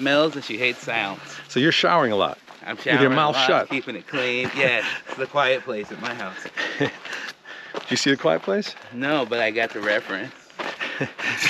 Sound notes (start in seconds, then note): 7.0 chuckles